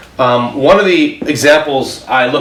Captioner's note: none